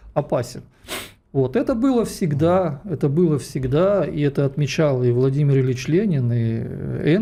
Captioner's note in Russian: фыркает